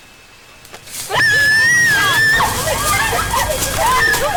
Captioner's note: screams & Chaos